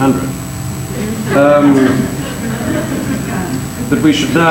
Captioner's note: audience laughing